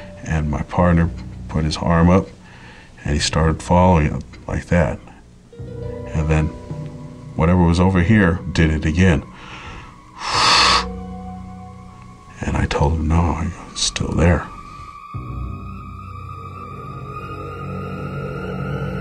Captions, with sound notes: And my partner put his arm up. And he started following up like that. And then whatever was over here, did it again. (huffing sounds) And I told him no, it' still there. (chilling music)